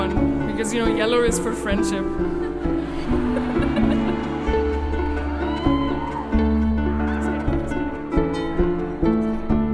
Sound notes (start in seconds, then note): 2.3 laughing; 3.3 audience cheering